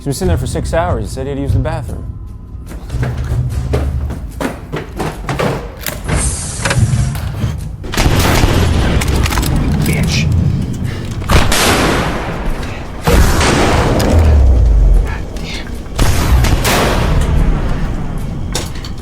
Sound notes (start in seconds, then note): 3.9 dramatic music; 7.8 guns firing; 11.3 gun firing